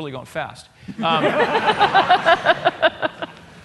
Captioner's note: laughter